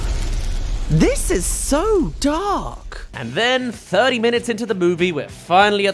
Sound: zap

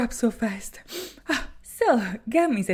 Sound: sniff

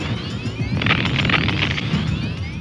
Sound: explodes

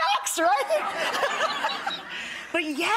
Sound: audience laughs

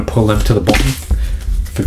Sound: crash

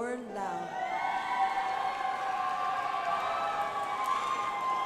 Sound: crowd applauding

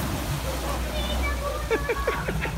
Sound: laughter on crowd

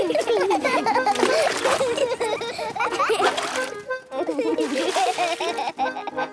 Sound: excited laughter

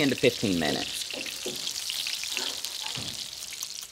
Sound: sizzling

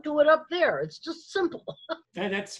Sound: laughs

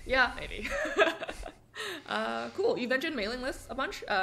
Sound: laughs

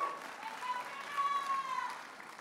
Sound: audience applauding and cheering

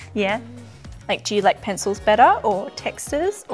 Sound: none

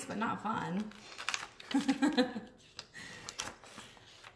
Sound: chuckles

